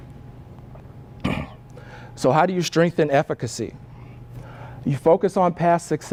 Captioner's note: cough